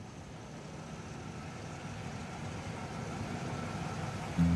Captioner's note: engine humming